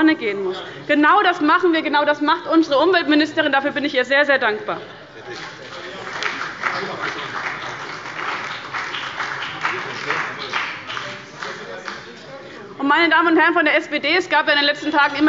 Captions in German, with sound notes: gehen muss. Genau das machen wir. Genau das macht unsere Umweltministerin. Dafür bin ich ihr sehr dankbar. (Beifall bei dem BÜNDNIS 90/DIE GRÜNEN und bei Abgeordneten der CDU) Meine Damen und Herren der SPD- Fraktion, es gab in den letzten Tagen